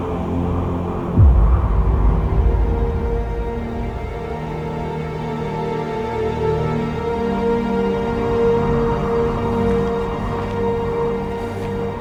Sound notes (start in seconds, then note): 1.8 wind howling; 6.5 dramatic music